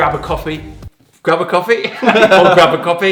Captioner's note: laugh